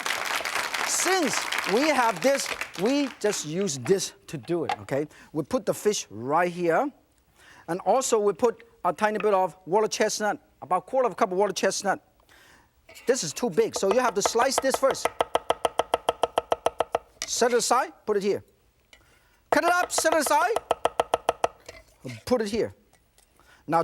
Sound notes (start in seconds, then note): 15.3 knife banging